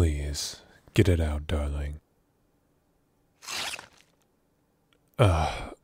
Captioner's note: flesh noise